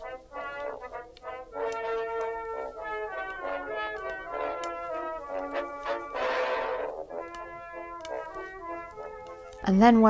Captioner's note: needles clicking